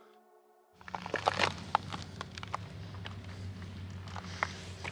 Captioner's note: crunching of footsteps